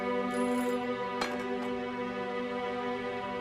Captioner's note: ringing